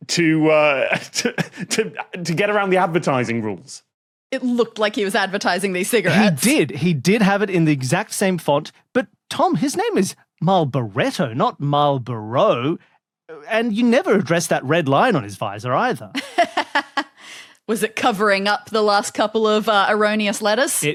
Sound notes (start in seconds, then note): 16.2 laughs